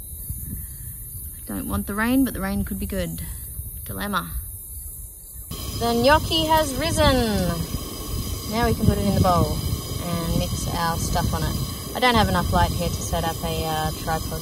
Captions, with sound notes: I don't want the rain but the rain could be good. Dilemma. [gas hisses] [announces triumphantly] The gnocchi has risen! Now we can put it in the bowl and mix our stuff on it. I don't have enough light here to set up a, uh, tripod